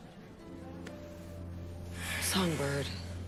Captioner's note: sighing